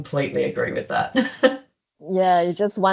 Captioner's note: laughs